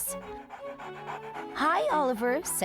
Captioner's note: dog panting